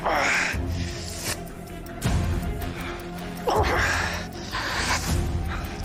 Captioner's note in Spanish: Quejidos